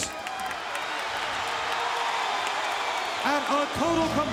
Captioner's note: audience cheering